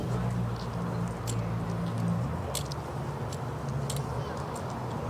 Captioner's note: car engines roaring